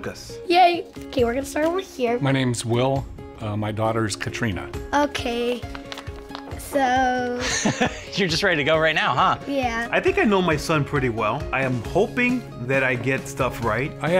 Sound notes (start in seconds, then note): 7.4 FBE laughs